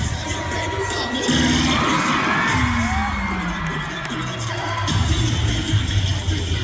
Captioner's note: cheer music continues; audience cheering